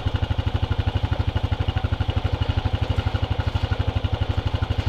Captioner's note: engine humming